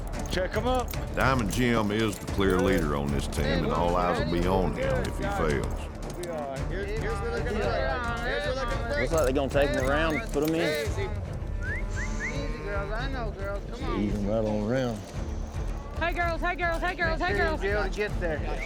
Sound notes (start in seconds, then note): 11.4 whistling